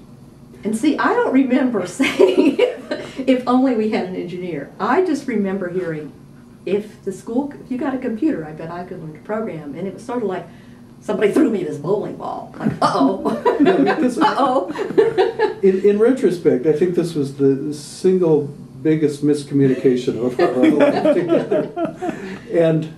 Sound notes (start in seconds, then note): 13.2 laughter; 19.7 mingled laughter